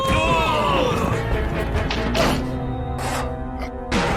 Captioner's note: all grunting